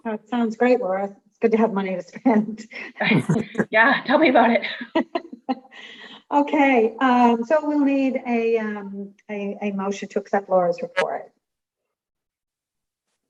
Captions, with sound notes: - Oh, it sounds great, Laura, it's good to have money to spend. (group laughing) - Thanks, yeah, tell me about it. - Okay, so we'll need a motion to accept Laura's report.